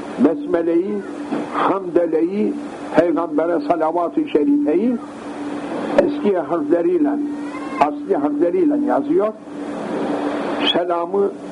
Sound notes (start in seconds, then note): 7.3 Arabic